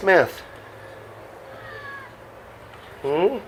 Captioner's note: miaows